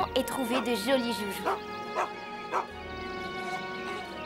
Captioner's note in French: Aboiement de chien